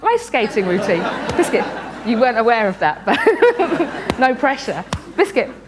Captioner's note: laughter; laughs